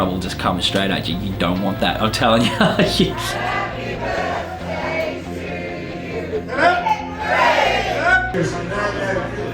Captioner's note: laughs